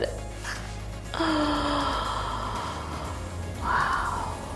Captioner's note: inhales sharply